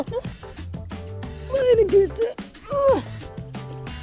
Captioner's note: moans